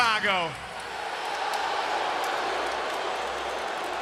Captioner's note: crowd boos